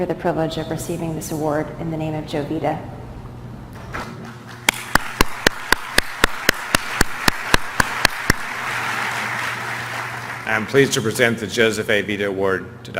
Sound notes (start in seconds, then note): 4.4 applause